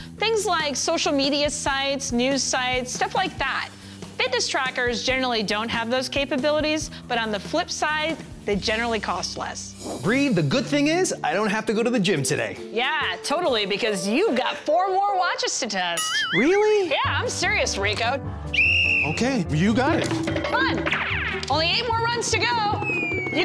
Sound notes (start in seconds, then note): 18.5 whistle blows